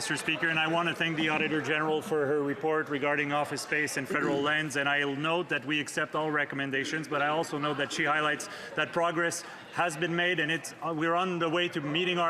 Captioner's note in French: voix de l'interprète